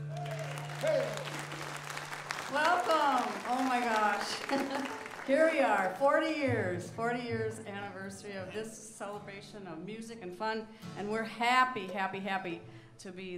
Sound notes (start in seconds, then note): 0.0 audience cheers and applauds; 4.2 chuckles